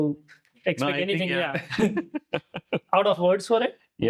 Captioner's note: laugh